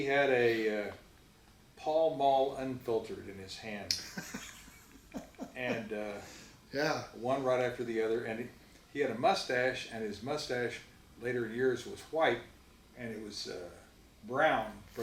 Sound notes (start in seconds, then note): 4.0 laughs